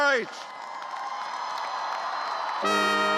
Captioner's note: cheers; cheers and applause